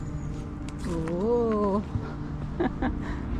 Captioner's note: laughs